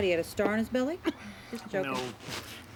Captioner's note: chuckles